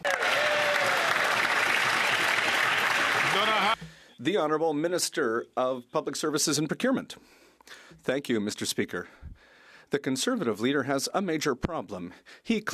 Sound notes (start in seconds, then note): 2.9 some Applause